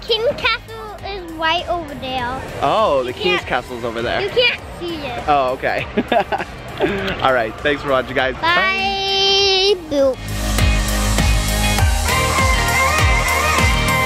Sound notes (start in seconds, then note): 5.7 laughs; 10.1 lively dance music